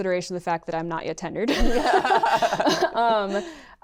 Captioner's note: laughter